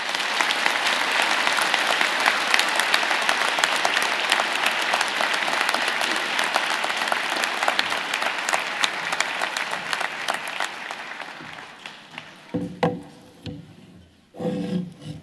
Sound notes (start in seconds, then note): 4.4 applause